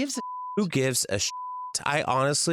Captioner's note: beep